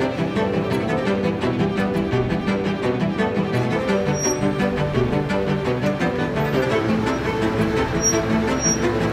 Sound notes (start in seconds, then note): 1.9 dramatic music continues; 1.9 vehicle squeaking